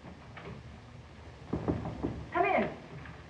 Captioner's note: harpo knocking on door